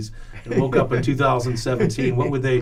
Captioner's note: laughs